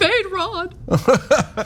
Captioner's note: laugh